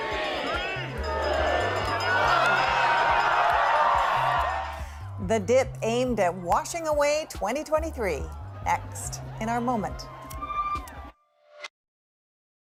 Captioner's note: cheers and Applause